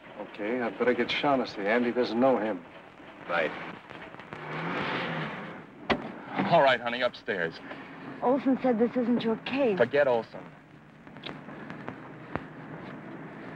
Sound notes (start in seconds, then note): none